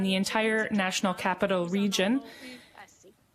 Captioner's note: speaking French